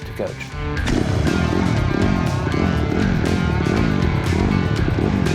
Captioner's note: engine revving